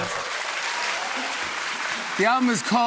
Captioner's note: cheers and applause